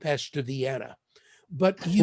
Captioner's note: laughter